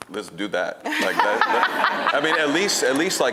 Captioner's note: audience laughing